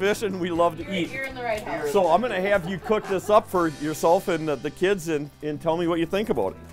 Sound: laughing

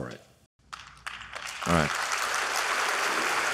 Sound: applause

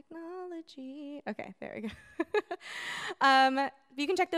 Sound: chuckles

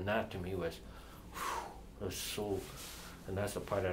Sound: exhales

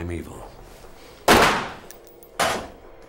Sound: gunshot

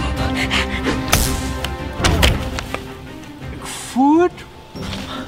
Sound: pants heavily; electric zap

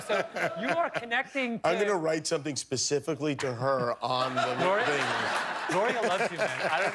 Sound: laughter

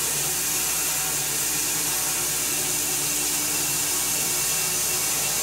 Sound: saw blade whirring

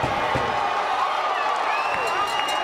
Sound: cheering, clapping and whistling; bell ringing

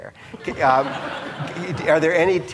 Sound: audience laughing

